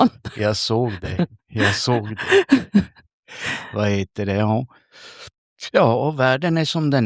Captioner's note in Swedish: skratt